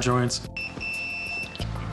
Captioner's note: beeping